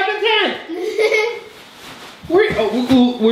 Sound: laughing

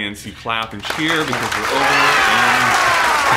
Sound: wild clapping and cheering

